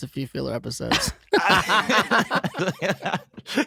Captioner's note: laughing